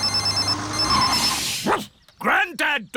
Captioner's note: phone ringing; beeping; barks